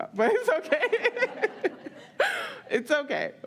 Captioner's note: all laugh